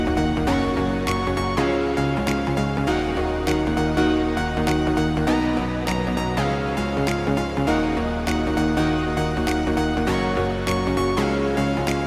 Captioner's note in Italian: Applauso